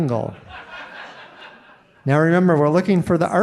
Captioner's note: audience laughing